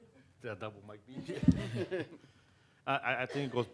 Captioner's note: audience laughing